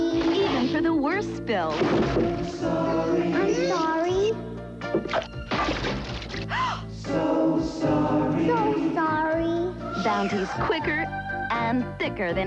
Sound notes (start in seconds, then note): 6.5 gasp